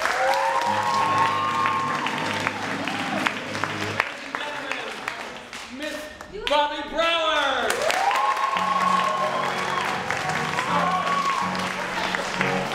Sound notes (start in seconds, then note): 0.0 cheering and applauding; 0.1 upbeat piano music; 7.3 cheering and applauding; 8.0 upbeat piano music